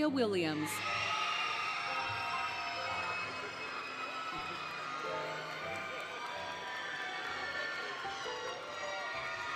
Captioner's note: applause, Cheering, Music